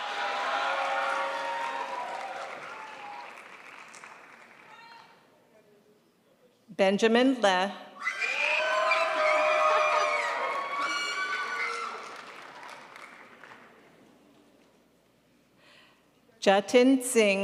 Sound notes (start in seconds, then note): 0.0 crowd applauds; 8.3 crowd applauds